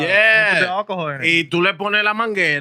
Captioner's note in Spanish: Hablando en idioma extranjero